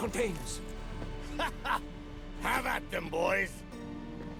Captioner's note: laughs